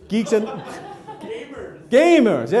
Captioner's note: audience laughs